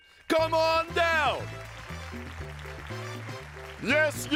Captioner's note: applause